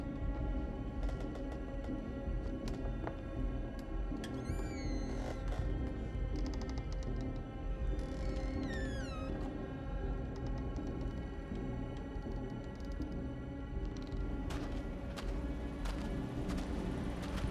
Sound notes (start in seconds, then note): 14.4 footsteps scraping